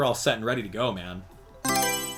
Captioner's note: Mario Selection Sound